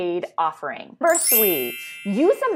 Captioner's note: twinkles